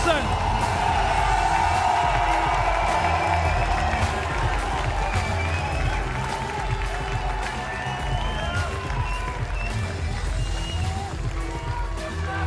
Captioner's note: applause